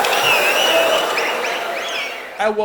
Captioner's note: wild applause and cheering for 22 seconds